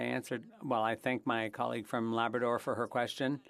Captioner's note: speaking French